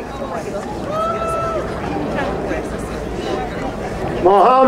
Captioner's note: crowd cheering